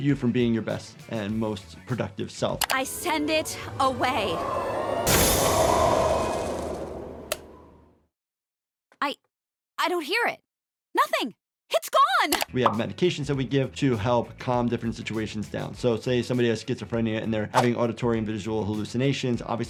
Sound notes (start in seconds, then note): 2.7 wind whooshing